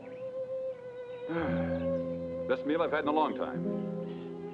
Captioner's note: sighs